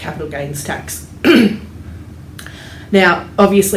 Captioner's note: clears throat